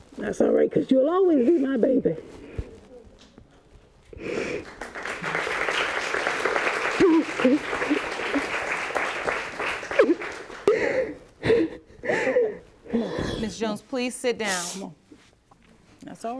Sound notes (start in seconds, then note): 4.2 applause; 7.4 crying